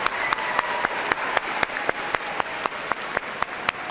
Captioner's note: applause